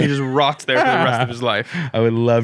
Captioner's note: laughs